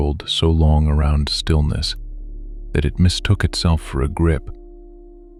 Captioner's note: soft voice